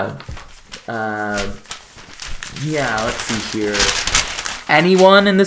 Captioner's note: shuffles papers